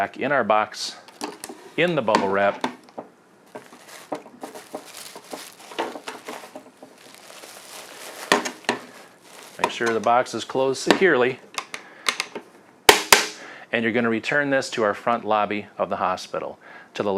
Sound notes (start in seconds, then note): 5.8 thudding loudly; 12.9 snaps loudly